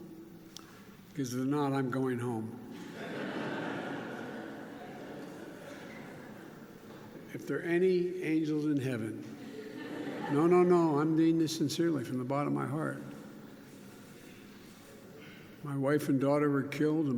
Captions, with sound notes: Because if there are not, I'm going home. (Laughter.) If there are any angels in Heaven -- (laughter) -- no, no, no, I mean this sincerely from the bottom of my heart. My wife and daughter were killed